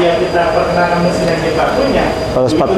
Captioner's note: distant chattering